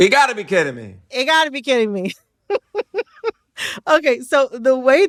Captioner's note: laughter